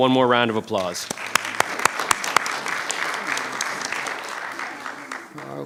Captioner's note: audience applauding